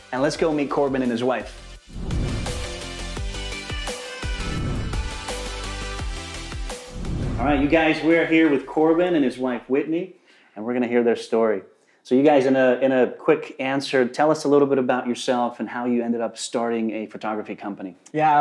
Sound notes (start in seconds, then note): 2.4 lively upbeat music; 4.2 air whooshing